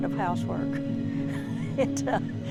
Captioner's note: laughter